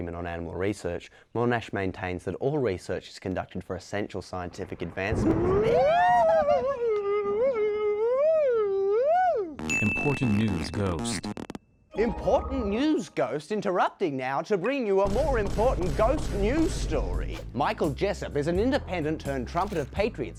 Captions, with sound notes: on Animal Research, Monash maintains that all research is conducted for a central scientific advanc- YELPS *ghostly moans* Important news ghost important news Ghost interrupting Now to bring you a Michael Jessop is an independent turned trumpet of Patriots